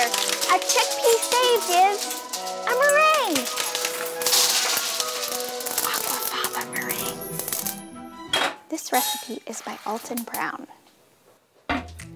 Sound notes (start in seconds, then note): 3.2 chickpeas clatter; 5.7 whispering